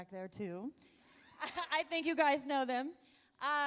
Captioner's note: laughs